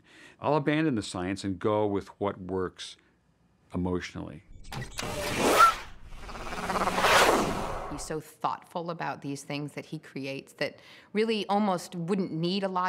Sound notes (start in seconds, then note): 6.1 whooshing